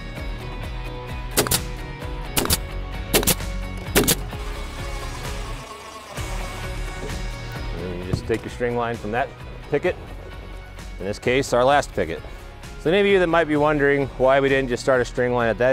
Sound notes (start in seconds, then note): 0.1 nail gun popping; 3.8 drill buzzing